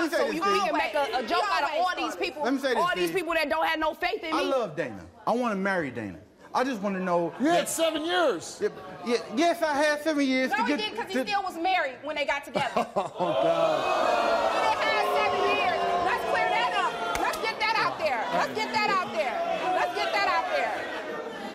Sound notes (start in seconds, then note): 13.1 audience jeers